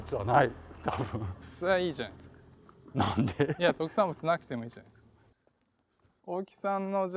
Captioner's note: laugh